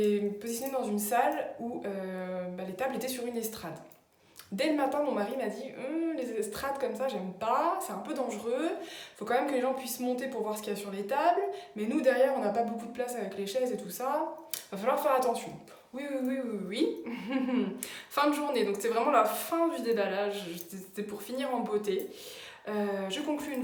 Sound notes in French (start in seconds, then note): 17.1 rire